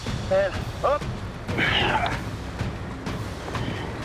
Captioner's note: grunting